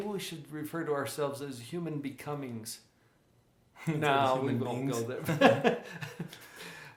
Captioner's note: both Laughs